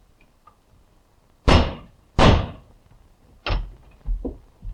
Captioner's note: crowbar thudding